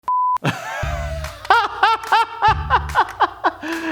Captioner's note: laughing